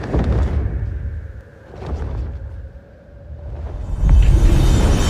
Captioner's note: wind whipping